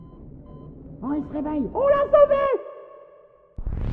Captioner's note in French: imitation de voix féminine étouffée